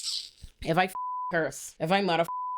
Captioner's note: beep